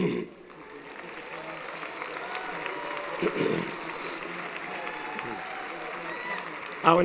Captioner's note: applause & Cheering